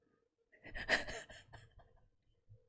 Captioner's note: laughs